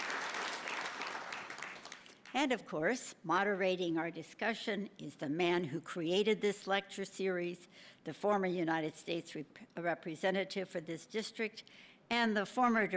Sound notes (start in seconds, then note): 0.0 applause